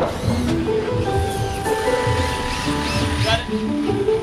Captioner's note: light music; drills whirring